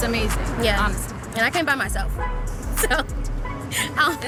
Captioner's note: laughing